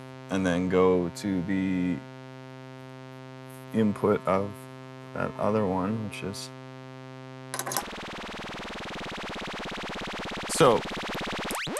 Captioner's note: rapid beeps